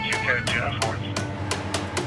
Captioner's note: dispatch radio chatter; siren blaring